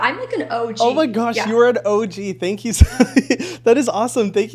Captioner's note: laughs